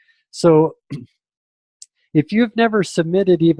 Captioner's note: clears throat